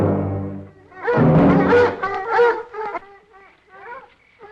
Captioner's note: dogs barking